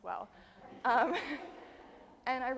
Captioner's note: audience laughing